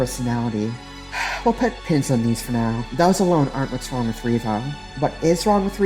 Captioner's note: sigh